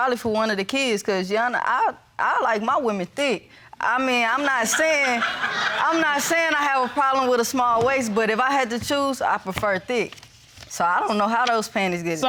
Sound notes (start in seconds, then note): 4.4 audience laughing